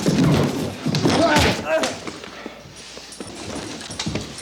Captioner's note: TJ groans